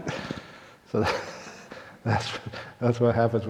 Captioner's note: laughs